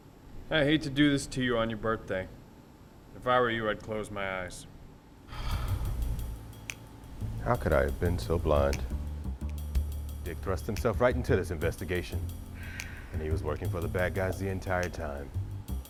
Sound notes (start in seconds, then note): 5.3 tracy sighs deeply